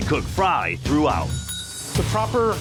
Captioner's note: bell rings